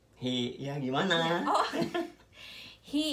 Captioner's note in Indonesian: ketawa bareng-bareng